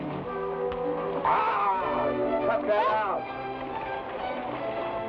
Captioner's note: groans